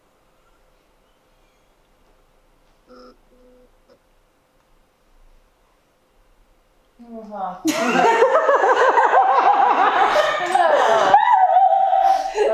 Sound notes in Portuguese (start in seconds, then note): 7.6 risos